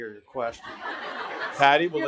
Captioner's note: audience laughing